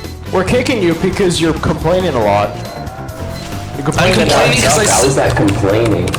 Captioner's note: overlapping chatter